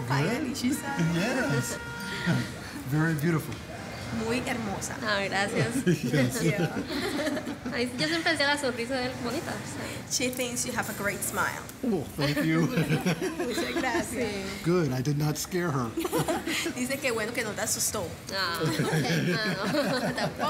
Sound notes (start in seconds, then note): 7.1 speaking spanish; 12.2 laughs; 18.6 all laughing